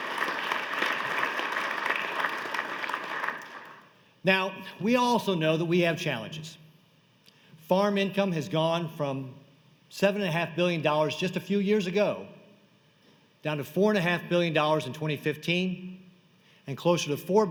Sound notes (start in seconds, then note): 2.7 applause